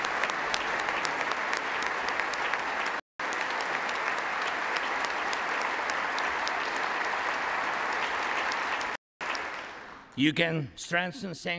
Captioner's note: applause